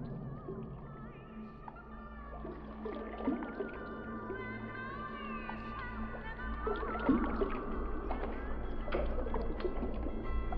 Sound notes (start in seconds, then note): 2.2 water bubbling; 7.6 muffled music